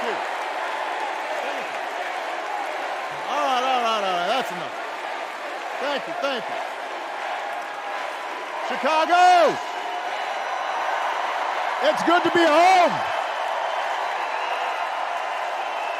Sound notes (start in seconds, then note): 4.0 cheers and applause